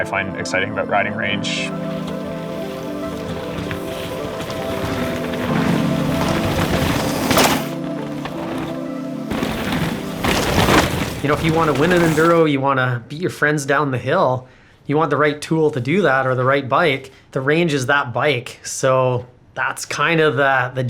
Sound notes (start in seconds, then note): 3.7 bikes ripping trail